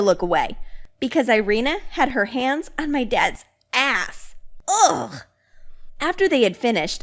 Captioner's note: scoffs